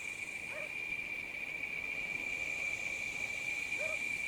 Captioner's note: dog barking